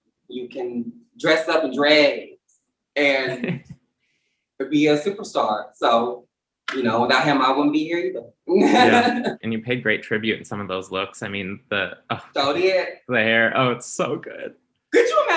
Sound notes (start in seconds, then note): 8.5 Symone laughs